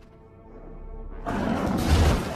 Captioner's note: bull roar